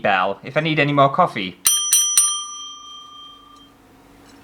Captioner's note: ring